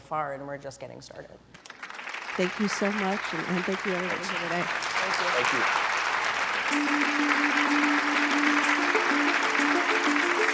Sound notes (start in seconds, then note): 6.2 applause